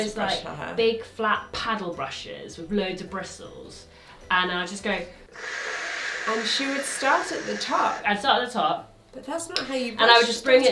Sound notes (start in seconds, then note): 5.2 hisses